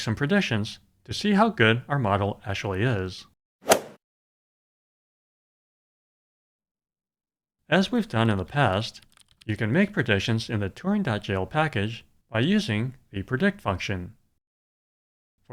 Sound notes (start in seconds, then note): 3.7 swoosh